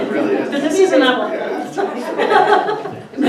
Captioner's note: laughter